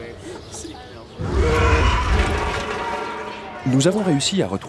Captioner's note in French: cri de bête